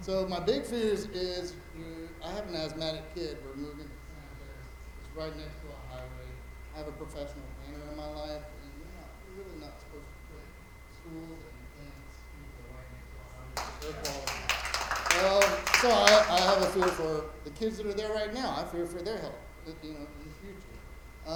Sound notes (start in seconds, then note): 13.5 attendees applauding